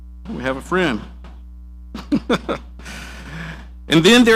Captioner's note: laughing